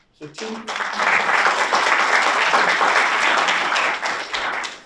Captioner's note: audience applauds